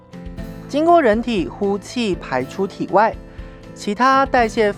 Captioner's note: breathing out